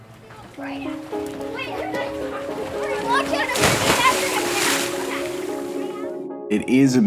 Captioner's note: kids chattering; gentle music